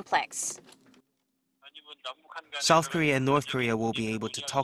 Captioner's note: Korean